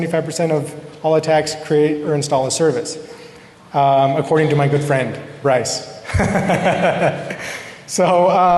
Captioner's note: laughter